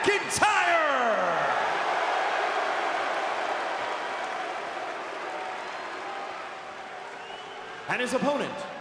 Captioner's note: crowd cheering